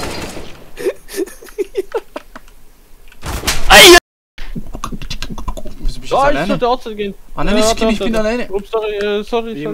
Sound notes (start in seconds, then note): 4.6 beatboxing